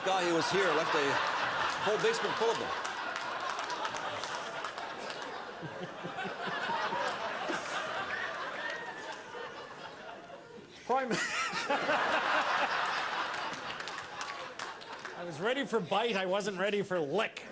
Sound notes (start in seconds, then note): 12.5 laughter; 15.3 cheering and Applause